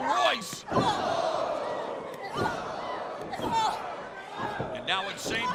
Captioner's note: crowd cheering